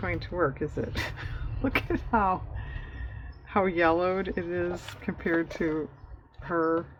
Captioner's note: laughs